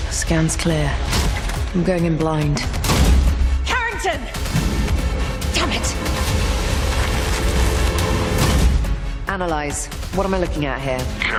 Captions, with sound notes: Scans clear. I'm going in blind. [yelling] Carrington! Damn it! Analyze. What am I looking at here?